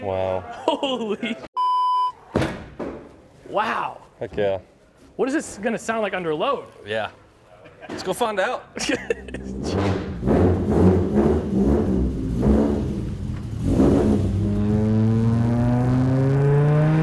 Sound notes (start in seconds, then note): 1.5 beep; 9.3 car engine roaring; 9.4 car revving